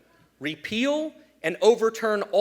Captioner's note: none